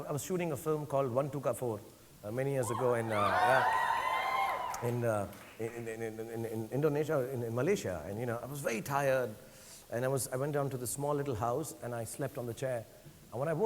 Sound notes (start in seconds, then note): 2.6 audience cheering